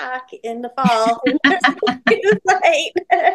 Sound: people laughing

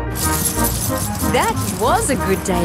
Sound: coins jingling

